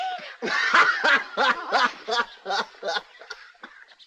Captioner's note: hoppy laughs